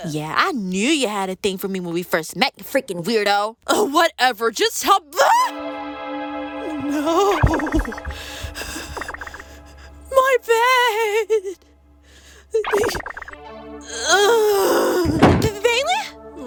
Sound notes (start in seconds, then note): 8.1 breathing heavily; 15.0 Bailey faints, thud